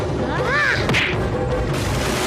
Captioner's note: grunts